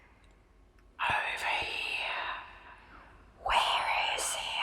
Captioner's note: voice 1 Whispering; voice 2 Whispering; voice 1 Whispering